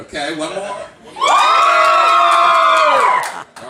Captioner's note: audience screams louder